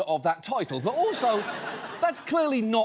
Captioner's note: audience laughs